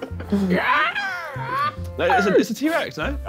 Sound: screeching

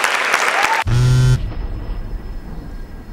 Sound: applause; cell phone buzz

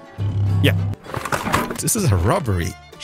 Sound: blows goat horn

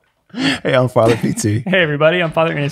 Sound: laughing

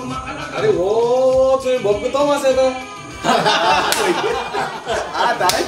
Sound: laughing

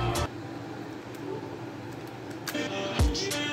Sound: Noise of ps4

